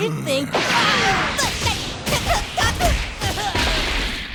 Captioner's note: grunting